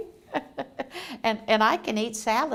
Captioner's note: laughs